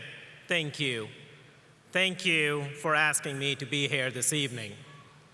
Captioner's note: none